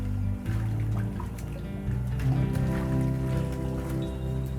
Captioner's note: water sloshing